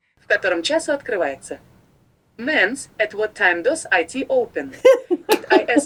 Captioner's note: russian